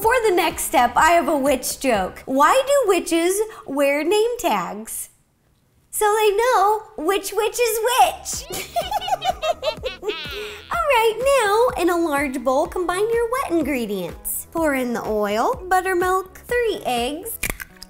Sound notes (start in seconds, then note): 8.4 giggling, witch cackling simultaneously